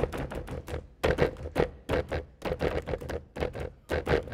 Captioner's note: drum beating and feet stomping; feet stomping